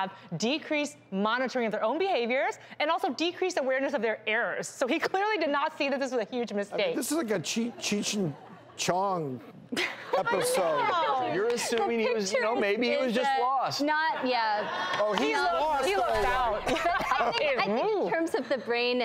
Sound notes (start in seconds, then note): 9.7 laughter